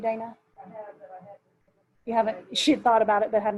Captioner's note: murmurs